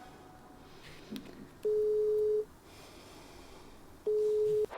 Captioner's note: line ringing